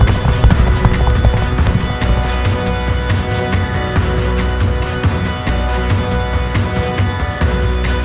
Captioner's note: hooves clop; moves into dramatic music